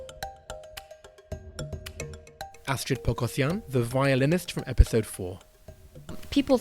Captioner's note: voiceover